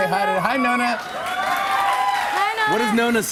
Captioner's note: cheers and applause